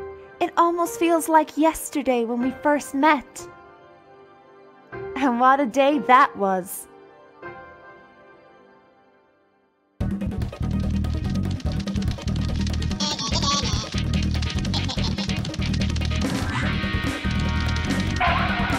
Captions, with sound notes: It almost feels like yesterday when we first met. And what a day that was. (TAUNTING LIKE IN SPYRO 1) (CHUCKLING EVILY)